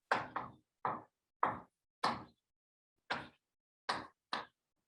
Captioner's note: chalkboard tapping loudly